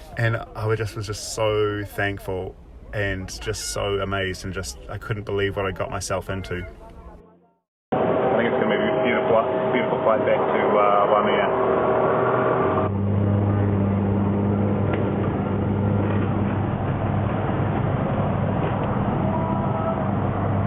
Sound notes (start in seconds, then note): 15.2 plane roaring